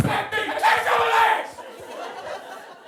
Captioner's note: yelling unintelligibly; audience laughing